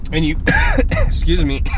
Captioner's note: coughing